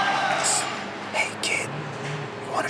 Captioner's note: ghostly Voice